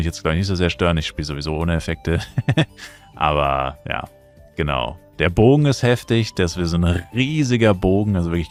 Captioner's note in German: gelächter